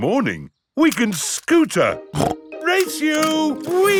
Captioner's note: snorts